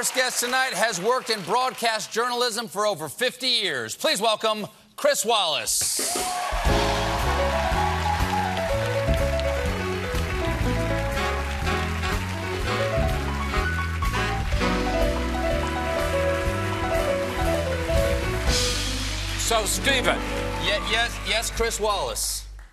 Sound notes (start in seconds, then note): 6.6 band playing; 7.6 cheers and applause